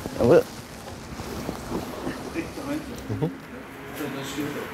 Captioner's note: snatches of conversation, traffic noise